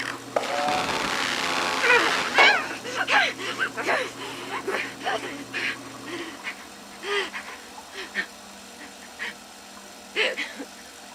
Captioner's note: Samantha in pain; laughs